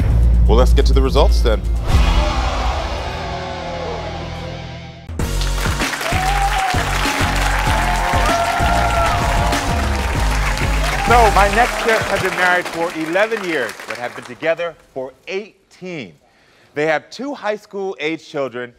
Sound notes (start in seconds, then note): 1.6 audience oohing; 5.2 audience cheering and clapping